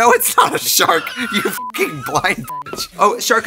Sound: beep

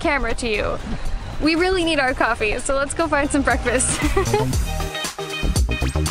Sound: laughter

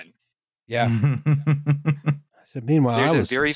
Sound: chuckles

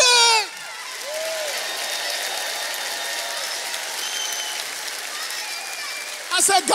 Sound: audience applauds; audience cheers

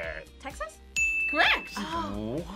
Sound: bell rings

